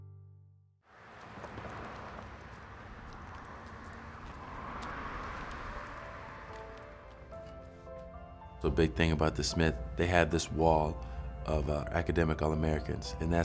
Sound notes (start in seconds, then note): 0.9 light sound of traffic; 5.4 soft upbeat music